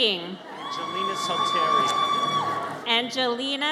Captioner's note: audience cheers